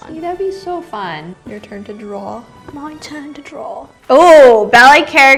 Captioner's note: accented